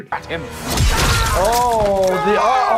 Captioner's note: blow landing; character screaming